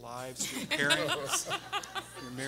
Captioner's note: everyone laughing